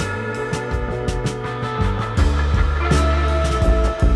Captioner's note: sander buzzing